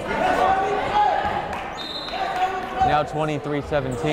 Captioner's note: yelling